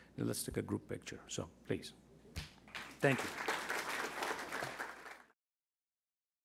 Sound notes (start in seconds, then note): 2.7 crowd applauding